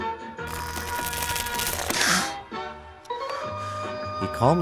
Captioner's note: jigsaw peeling off latex cap and grunts